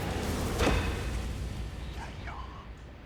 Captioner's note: whispering